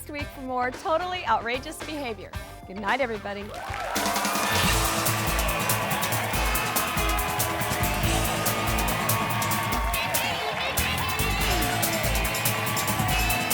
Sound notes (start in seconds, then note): 4.2 audience applauds; 6.5 upbeat music